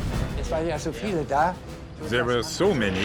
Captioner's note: speaking in foreign language